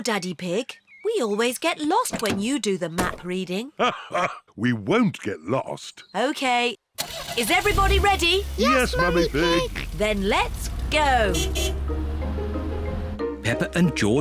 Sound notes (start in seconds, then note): 4.7 laughs